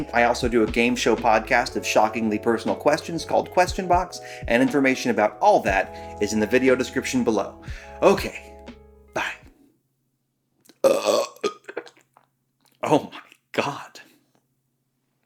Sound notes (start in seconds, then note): 10.7 burps